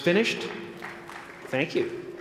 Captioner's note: applause